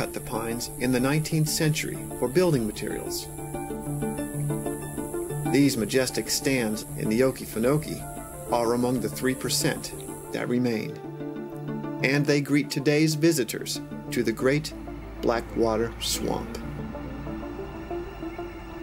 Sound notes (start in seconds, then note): 17.3 car passing